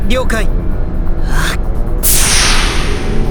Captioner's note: power up